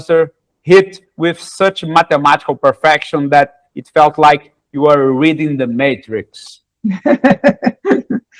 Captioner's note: laughter